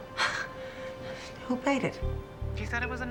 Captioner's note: sighs